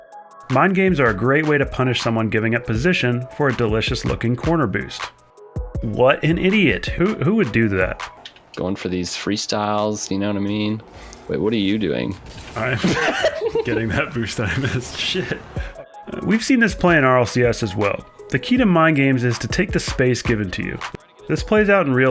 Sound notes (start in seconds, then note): 12.5 laughs in background